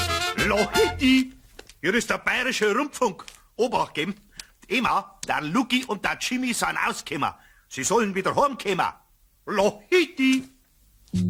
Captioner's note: following in Bavarian accent